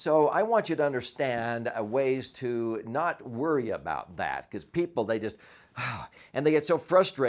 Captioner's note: sighs